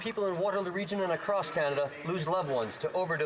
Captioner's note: some Applause